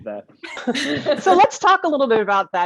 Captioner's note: all laughing